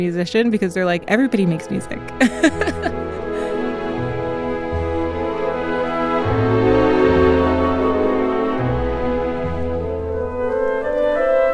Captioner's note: laughs